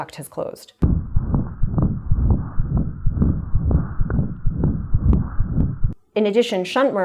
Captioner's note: heart beating